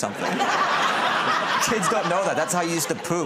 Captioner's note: laughter